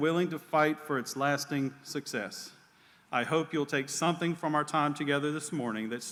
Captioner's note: none